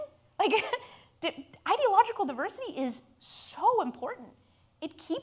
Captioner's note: laughs